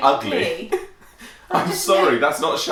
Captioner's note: chuckling